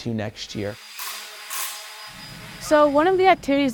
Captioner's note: machine whirring; object clattering